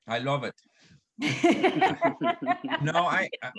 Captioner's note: laughs